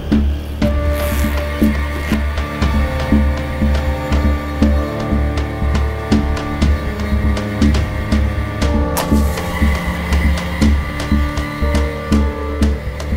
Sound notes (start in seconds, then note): 0.9 zipper buzzing; 9.1 match crackling